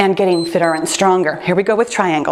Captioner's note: timer beeps